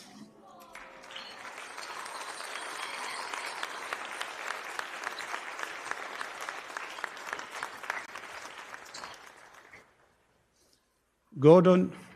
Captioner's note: applause